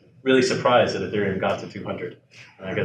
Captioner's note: laughs